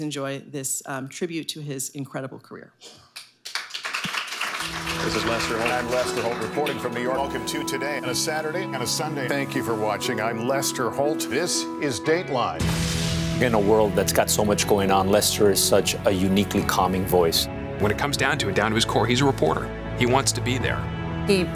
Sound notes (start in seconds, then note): 3.4 audience applauding